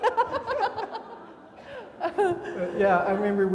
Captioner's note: everybody laughing